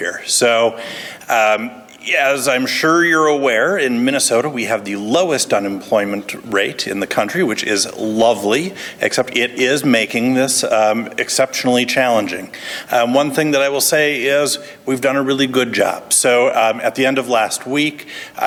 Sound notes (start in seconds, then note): none